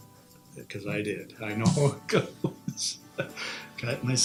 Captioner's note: laughs